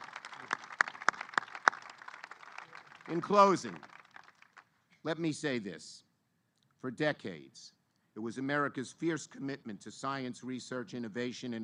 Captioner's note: applause